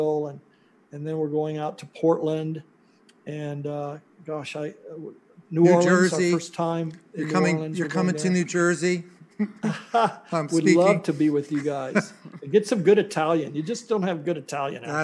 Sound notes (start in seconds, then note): 9.4 laughs